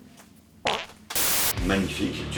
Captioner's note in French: prout